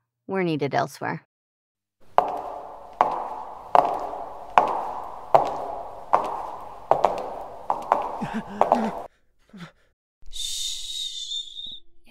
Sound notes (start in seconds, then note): 2.2 Footsteps clack before The Medjai and The Mage briefly grasp for air in panic